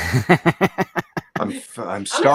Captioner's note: laughs